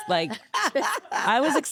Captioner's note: laughing